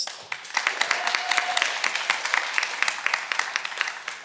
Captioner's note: cheering